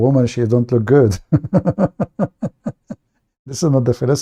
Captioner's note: Ketawa